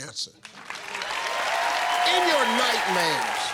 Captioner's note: cheers and applause